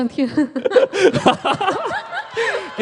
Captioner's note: laughters